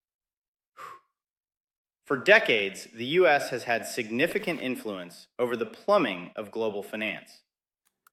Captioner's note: exhales